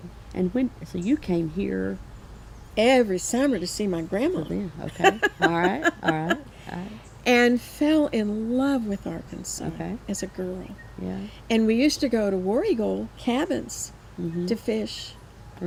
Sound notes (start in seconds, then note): 4.8 laughs